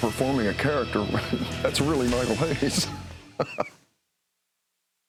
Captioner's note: laughs